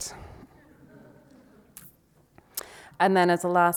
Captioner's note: audience laughs